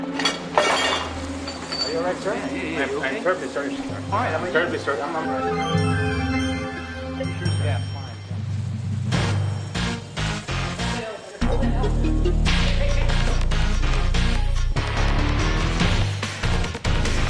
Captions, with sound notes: (dishes and tray clanging) - Are you all right, sir? - Yeah, yeah yeah. - I am terribly sorry, sir. - I'm fine. (dramatic music) Hold the elevator, hold that elevator. (fast-paced action music)